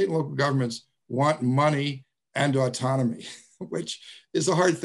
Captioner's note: laughs